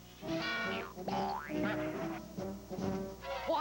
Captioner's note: boing